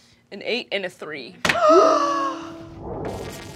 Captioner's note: gasps